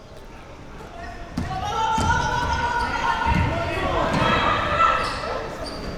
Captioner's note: athletes and spectators shouting